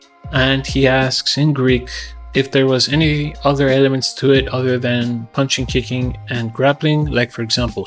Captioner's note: in greek